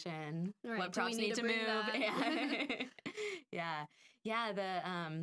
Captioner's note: laughing